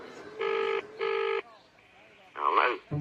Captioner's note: ringing tone